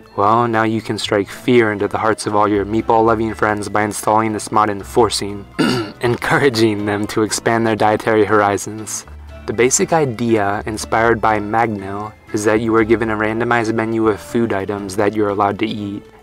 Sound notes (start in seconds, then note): 5.5 ahem